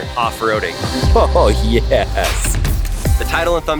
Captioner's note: chuckles